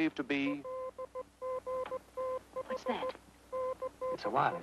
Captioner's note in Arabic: صافرة إلكترونية